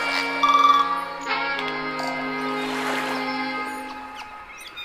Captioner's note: birds chirping; waves splashing